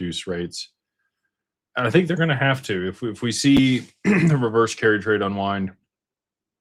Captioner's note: clears throat